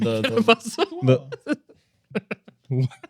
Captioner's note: laughing